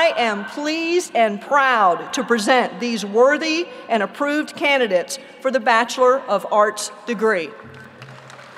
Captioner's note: applause